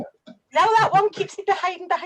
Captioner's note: laughs